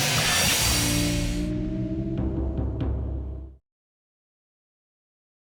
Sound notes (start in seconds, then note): 1.7 logo chiming